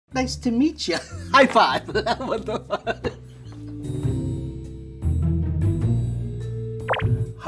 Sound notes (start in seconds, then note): 1.3 laughs; 2.4 soft jaunty music